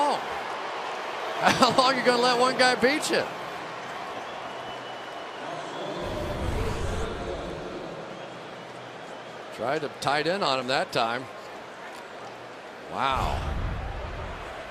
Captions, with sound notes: I mean, how long? How long are you going to let one guy beat you? [pa announcement] Tried a tight end on him that time. Wow.